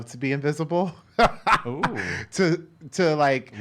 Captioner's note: laughs